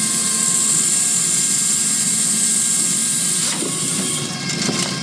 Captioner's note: drill whirring